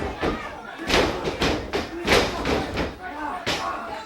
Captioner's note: body thudding